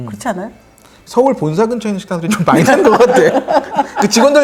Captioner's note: hahahahahaha